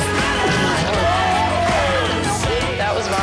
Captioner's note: all groaning